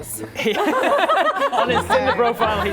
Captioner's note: laughing